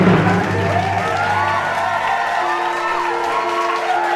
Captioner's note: people applauding; people cheering